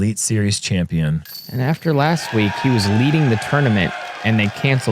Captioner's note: applause